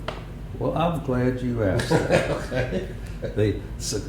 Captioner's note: laughter